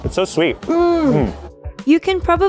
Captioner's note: both grunting